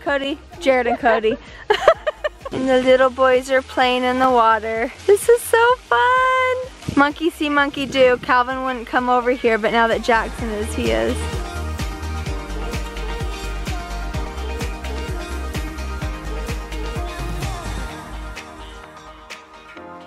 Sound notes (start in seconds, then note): 1.6 laughs